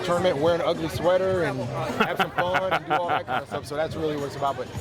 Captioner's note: laughs